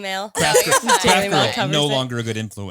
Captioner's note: all laughing